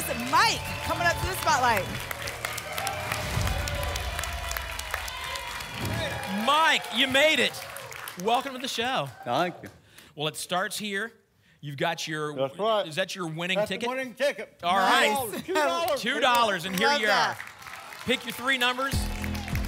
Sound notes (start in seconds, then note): 2.5 applause and cheering